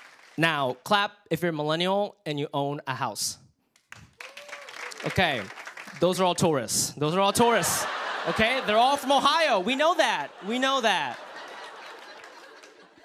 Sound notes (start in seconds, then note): 3.9 light applause